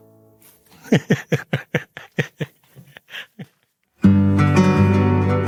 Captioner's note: laughs